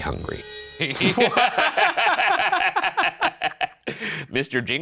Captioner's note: Shane and Ryan laughing